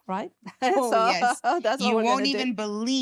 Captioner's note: chuckling